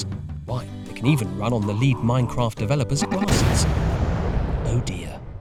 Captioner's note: massive explosion